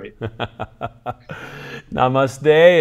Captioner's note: chuckles